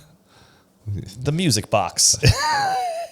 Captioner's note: laughs